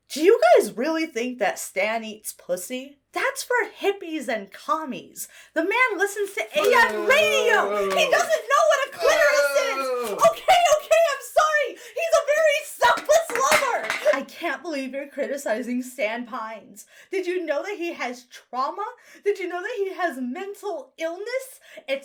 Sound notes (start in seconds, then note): 6.6 someone off-screen boos; 12.9 can clatters